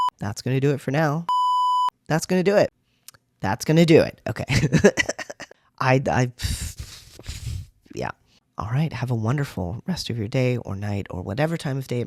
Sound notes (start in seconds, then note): 4.5 laugh; 6.4 blows out a breath